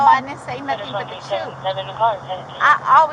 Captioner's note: radio chatter